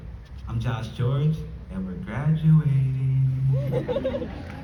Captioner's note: laughter